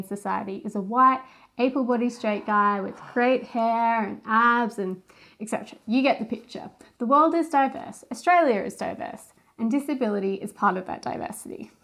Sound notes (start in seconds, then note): 2.0 sighs